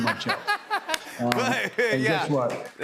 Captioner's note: laughter and applause